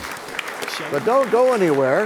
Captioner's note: applause